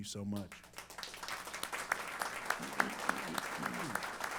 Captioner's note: applause